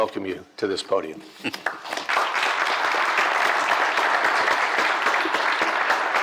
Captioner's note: applause